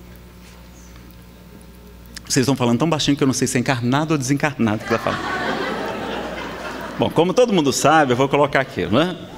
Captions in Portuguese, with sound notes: Vocês estão falando tão baixinho que eu não sei se é encarnado ou desencarnado que vai falar (risadas) Bom, como todo mundo sabe eu vou colocar aqui, não é?